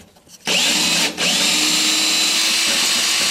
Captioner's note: drilling